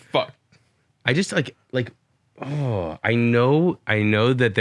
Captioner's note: groans in frustration